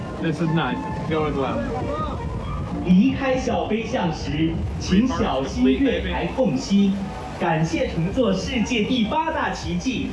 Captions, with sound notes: This is nice. This is going well. (speaking Chinese) Three parks complete, baby.